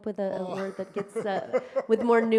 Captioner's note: laughs